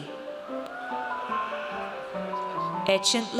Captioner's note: audience cheers